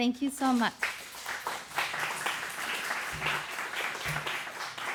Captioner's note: applause